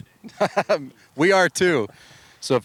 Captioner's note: laughs